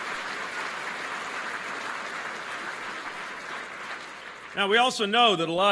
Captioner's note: applause